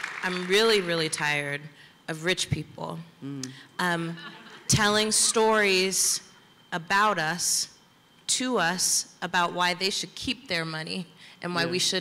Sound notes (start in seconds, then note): 4.1 laughter